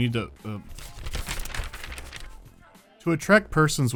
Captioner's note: flipping pages